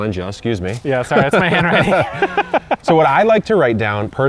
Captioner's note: laughs